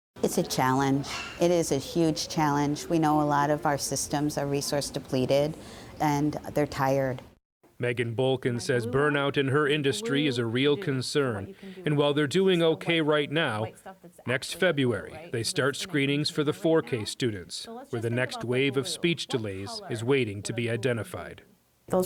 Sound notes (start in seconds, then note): 8.2 voice-over